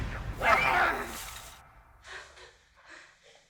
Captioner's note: Tilly yelping; Tilly gasping